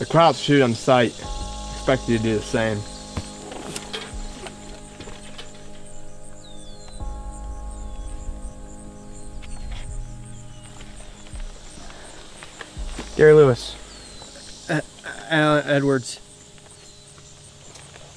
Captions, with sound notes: The krauts shoot on sight; expect you to do the same. (insects chirring) (birds twittering) - Gary Lewis. - Allan Edwards.